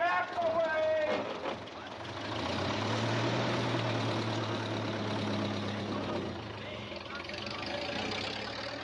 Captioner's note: vehicle reversing